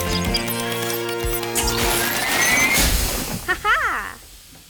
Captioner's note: thrilling music; machine beeping; Lilliana laughs